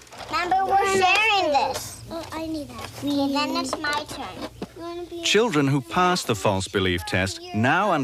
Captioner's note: girls talking